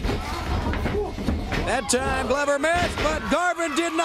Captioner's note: crowd cheering